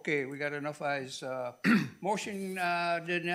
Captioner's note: coughing